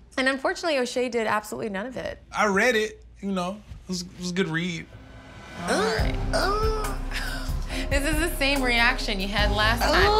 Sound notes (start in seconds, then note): 5.6 squeals; 7.0 laughs